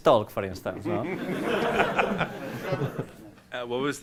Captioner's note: laughter